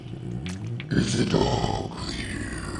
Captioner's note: growling